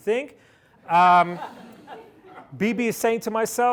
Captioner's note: laughter